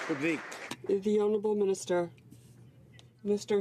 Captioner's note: some Applause